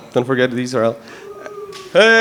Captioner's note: audience member cheering